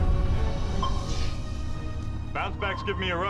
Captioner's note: sonar pinging